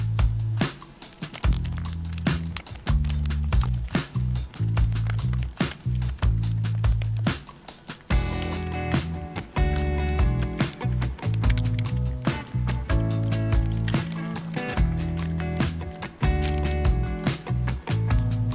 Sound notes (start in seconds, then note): 2.9 keyboard clicking